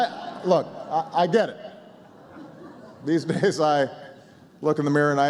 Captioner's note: laughter